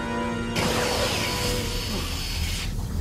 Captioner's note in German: Phasenpistole feuert